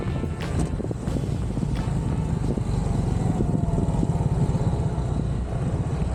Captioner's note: engine noise